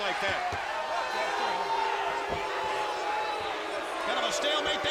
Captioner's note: audience booing